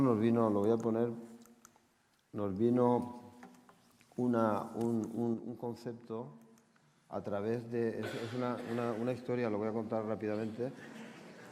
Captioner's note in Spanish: Risas